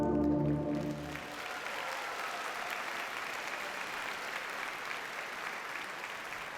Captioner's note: audience cheers and applauds